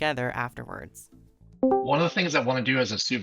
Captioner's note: Discord Join Call Sound